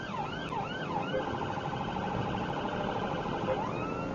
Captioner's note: police car siren; car beeps